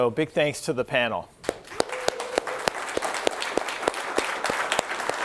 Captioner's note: applause